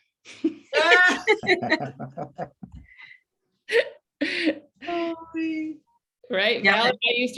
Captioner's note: laughter